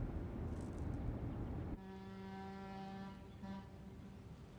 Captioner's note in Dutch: scheepshoorn blaast